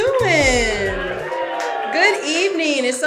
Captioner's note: audience cheering